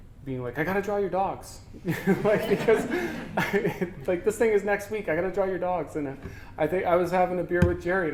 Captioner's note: audience: Laughter